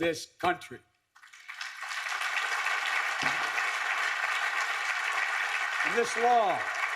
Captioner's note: applause